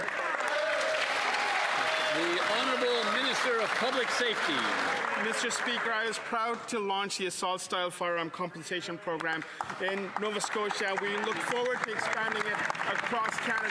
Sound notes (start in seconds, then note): 5.1 applause